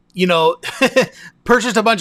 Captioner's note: laughing